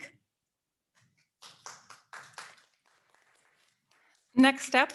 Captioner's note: audience members applauding